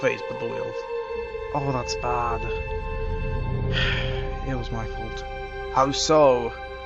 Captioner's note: sigh